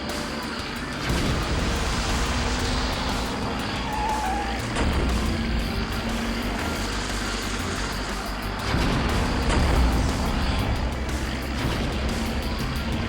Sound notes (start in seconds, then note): 1.0 water splashing; 4.0 tires screeching; 8.4 explosions blasting